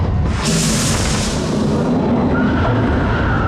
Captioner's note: explosion; riders screaming